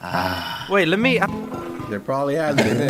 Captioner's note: gulp